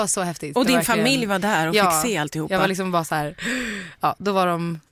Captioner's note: gasp